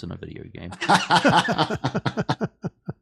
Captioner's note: laughter